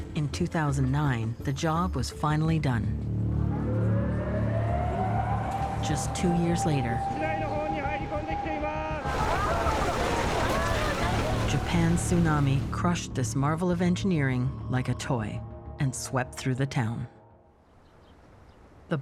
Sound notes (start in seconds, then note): 5.8 sirens wail; 11.5 shouts in Japanese; 11.5 people scream